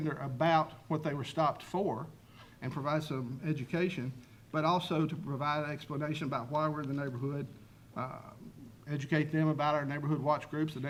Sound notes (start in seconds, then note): none